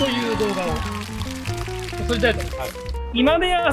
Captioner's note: applause